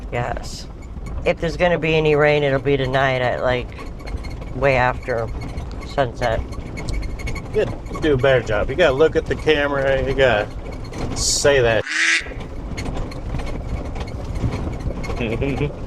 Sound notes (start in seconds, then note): 11.8 quack